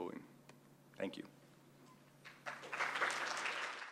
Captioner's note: applause